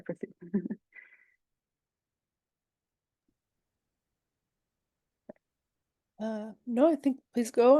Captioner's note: chuckles